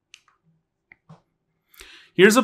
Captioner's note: remote clicking; accessory clattering